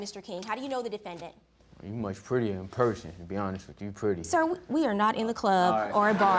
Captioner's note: audience laughing